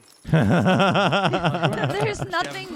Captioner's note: laughing